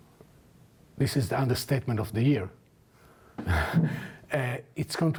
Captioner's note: laughs